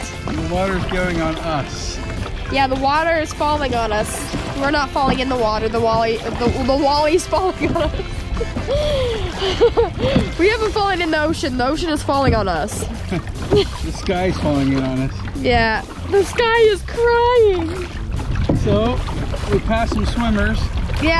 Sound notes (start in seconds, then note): 7.1 laugh